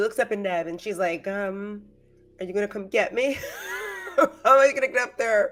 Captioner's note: laughs